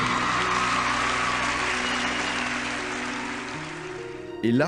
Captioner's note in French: applaudissements